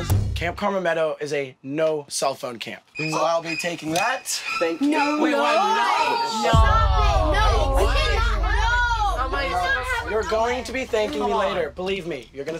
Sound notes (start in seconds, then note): 3.8 scary music; 6.5 loud protesting